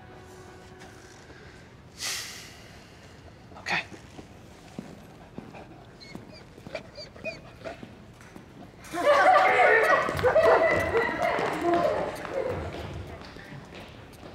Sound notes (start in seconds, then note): 5.6 dancer whimpers; 8.8 kids laughing, shouting